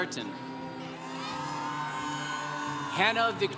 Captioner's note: congregation cheering